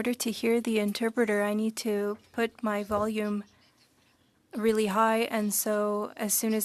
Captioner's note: speaking French